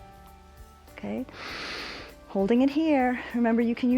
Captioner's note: inhales